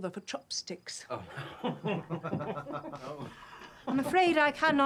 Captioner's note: men laughing